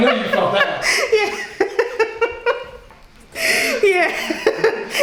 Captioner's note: laughing